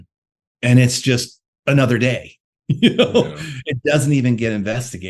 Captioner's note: laughs